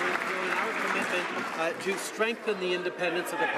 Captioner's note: applause